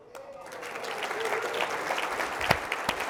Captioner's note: applause